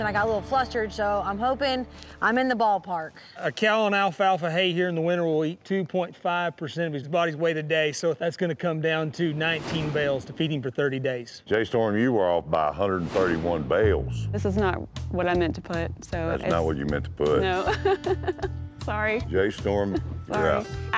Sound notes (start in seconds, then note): 17.4 giggling